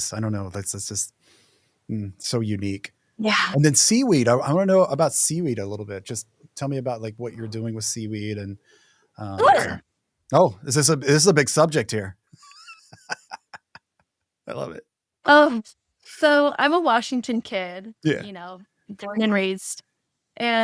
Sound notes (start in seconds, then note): 12.5 laughs